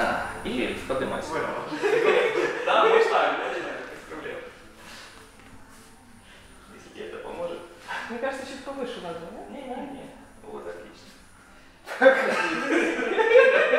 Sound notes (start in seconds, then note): 1.6 laughter